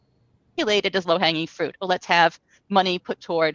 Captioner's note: speaks faintly